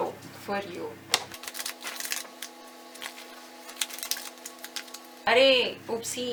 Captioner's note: shuffles